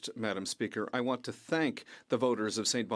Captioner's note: speaking French